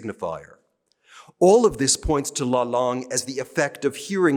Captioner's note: speaking french